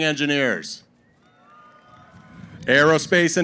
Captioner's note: cheering